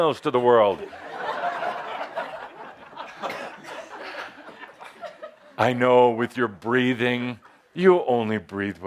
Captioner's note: laughter as Adamus addresses an audience member